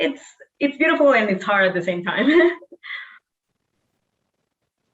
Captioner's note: chuckling